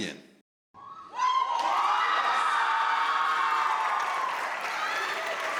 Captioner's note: audience cheering